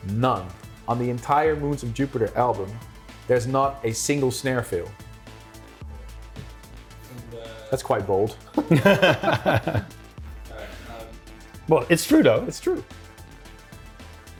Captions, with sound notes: None, on the entire "Moons of Jupiter" album, there's not a single snare fill. That's quite bold. (both laughing) - Well, it's true though. - It's true.